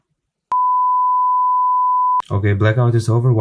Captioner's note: beep